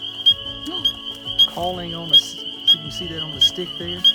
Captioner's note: gasps